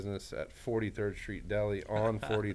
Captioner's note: laughs